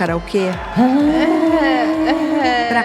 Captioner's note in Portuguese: mulher gaguejando